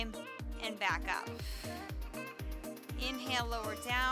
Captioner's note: exhales